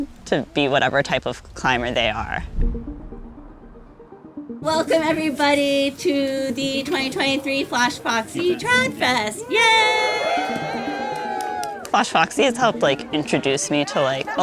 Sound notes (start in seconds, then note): 2.8 gentle music; 9.8 everyone cheering